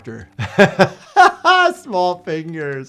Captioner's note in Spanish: persona riendo